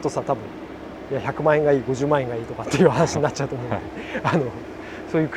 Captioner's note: laughs